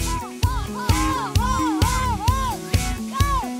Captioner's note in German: Sie rufen Kommandos durcheinander